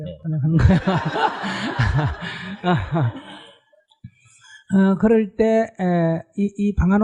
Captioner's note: /Audience Laughter